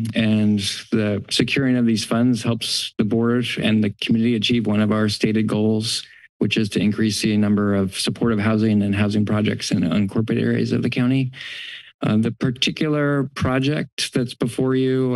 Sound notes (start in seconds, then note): 11.3 inhales